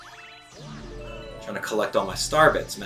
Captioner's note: gaming sounds